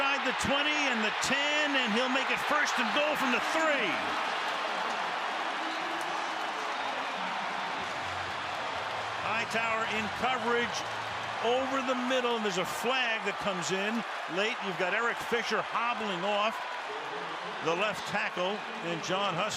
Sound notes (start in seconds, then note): 4.4 crowd cheering